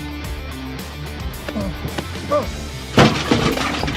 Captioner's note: grunting